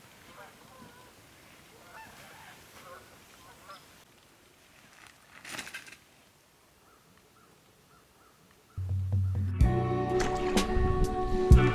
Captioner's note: birds squacking